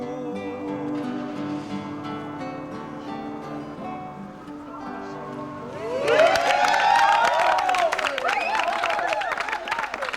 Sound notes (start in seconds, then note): 2.6 guitar playing; 5.8 group claps and cheers